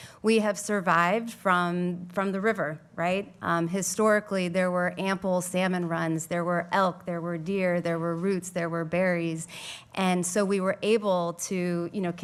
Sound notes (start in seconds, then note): none